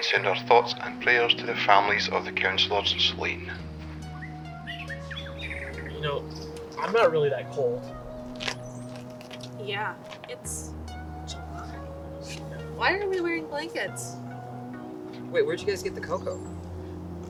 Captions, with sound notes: send our thoughts and prayers to the families of the counselors. (birds chirping) - You know, I'm not really that cold. - Yeah, it's. Why are we wearing blankets? - Wait, where'd you guys get the cocoa?